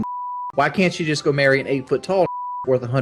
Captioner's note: beep